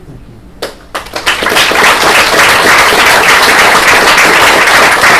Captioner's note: applause